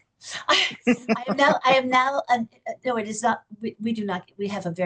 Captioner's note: laughs